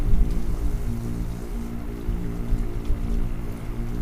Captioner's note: water running